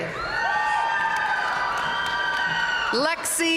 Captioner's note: audience cheering and applauding